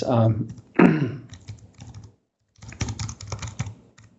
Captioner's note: keyboard taps